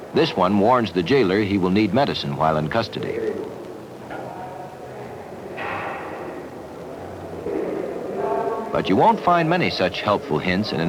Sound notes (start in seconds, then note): 3.0 indiscriminate chatter; 5.4 clanking; 7.0 indiscriminate chatter